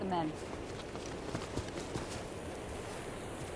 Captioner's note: footsteps